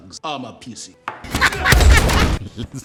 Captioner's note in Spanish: risa maníaca